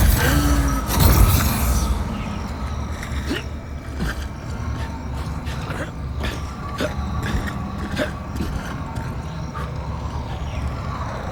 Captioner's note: gunfire